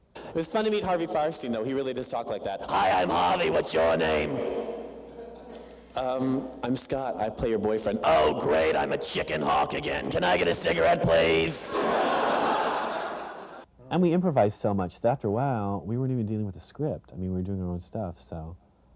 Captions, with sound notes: It was fun to meet Harvey Fierstein, though, he really does talk like that. [Gravelly voice] Hi, I'm Harvey, What's your name? Um, I'm Scott. I play your boyfriend. [Gravelly voice] Oh great, I'm a chicken hawk again. Can I get a cigarette, please. [Laughter] And we improvised so much, that after a while we weren't even dealing with the script. I mean we were doing our own stuff, so.